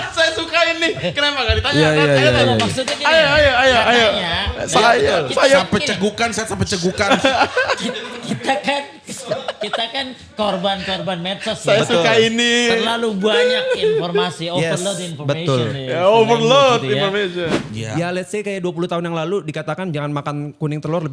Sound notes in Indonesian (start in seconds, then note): 7.2 tertawa